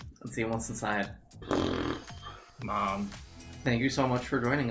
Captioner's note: raspberry sound